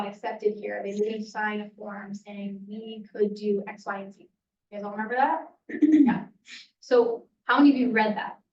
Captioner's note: throat clearing